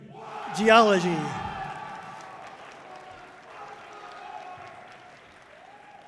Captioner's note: audience cheering loudly